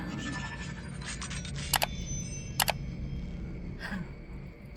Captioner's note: robot transforming; mouse click